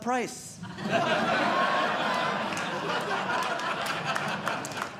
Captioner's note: audience Laughing